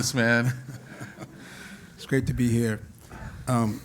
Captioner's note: laugh